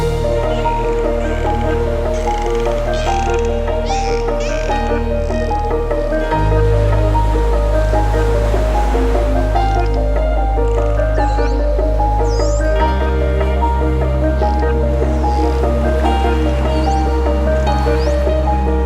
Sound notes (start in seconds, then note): 0.1 dolphins squeal; 0.8 upbeat piano music